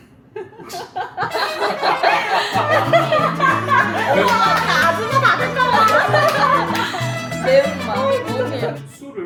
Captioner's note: slap slap!